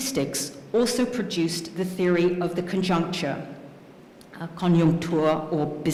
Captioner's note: speaking french